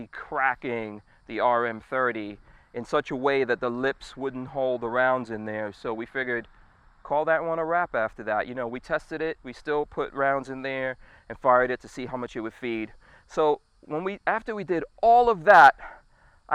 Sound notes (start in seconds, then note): none